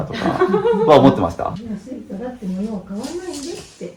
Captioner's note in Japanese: 笑い